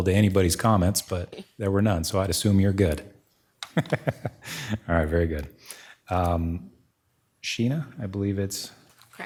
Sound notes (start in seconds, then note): 3.6 laughing